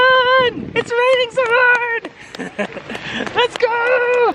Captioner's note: laughs